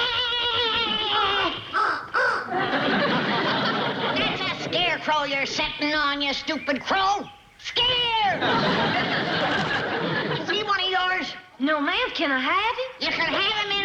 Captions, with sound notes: -(crow cawing) -(Granny shouting) That's a scarecrow you're sitting on, you stupid crow! Scare! Is he one of yours? No, ma'am. Can I have him?